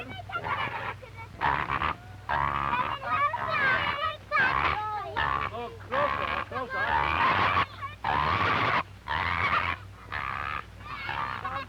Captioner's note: pigs grunting